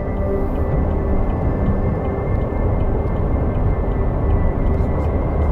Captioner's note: turn signal ticking